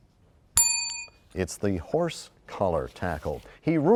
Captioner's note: bell rings, time expires